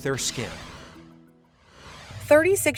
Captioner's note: air whooshes